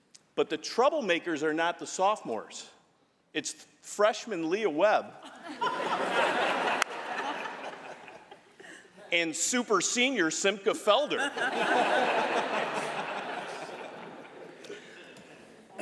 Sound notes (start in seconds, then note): 5.2 laughter